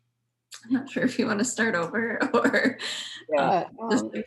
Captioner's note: chuckles